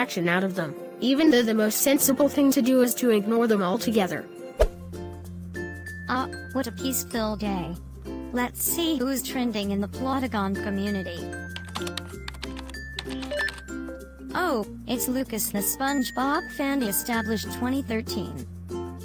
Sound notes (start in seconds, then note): 11.4 keyboard typing